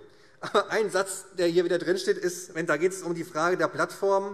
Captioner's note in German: none